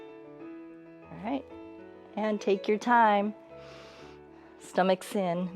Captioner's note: inhales